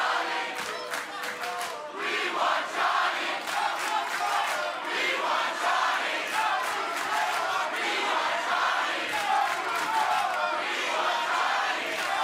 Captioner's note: fans chanting